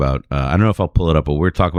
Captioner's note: uh